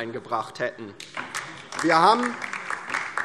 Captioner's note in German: Beifall DIE LINKE